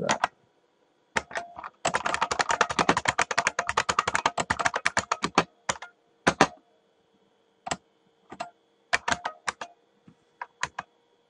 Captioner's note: typing